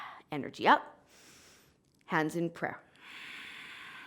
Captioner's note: inhaling; exhaling; exhaling